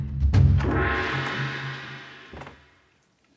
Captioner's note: gong banging